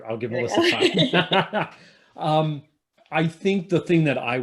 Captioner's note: panelists laughing